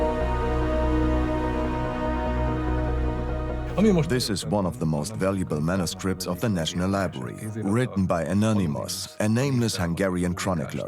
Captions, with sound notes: (in Hungarian) (dubbed in English) It's one of the library's most valuable manuscripts Written by Anonymous, a nameless Hungarian chronicler,